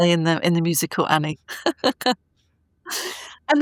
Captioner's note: laughing